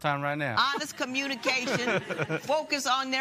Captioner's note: laughter